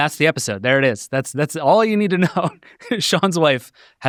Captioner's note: laughs